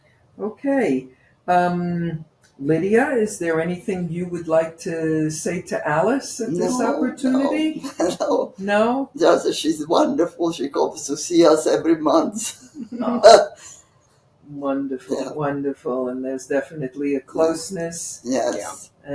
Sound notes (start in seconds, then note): 6.4 laughing